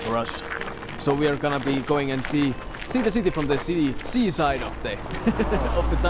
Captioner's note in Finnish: naurahtaa